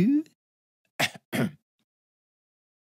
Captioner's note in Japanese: 咳払い